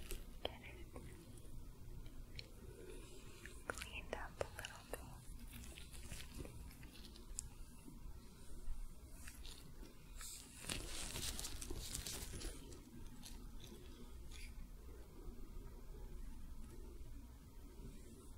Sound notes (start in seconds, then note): 6.1 sticky sounds, soft brushing